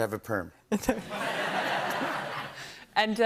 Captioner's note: laughter